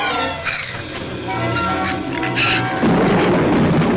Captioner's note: shrew snarls; thunder claps